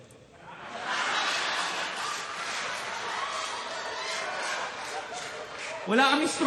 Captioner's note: laughter